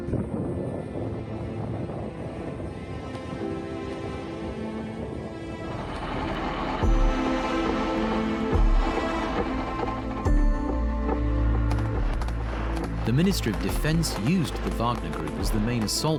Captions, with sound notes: (tank rumbles) (gunshots blast) The Ministry of Defense used the Wagner Group